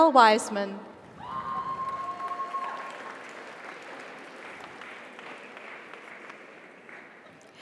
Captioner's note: audience cheers; audience applauds